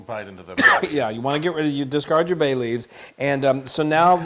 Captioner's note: cough